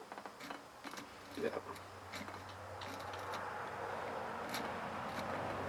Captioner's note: wing nut lightly scraping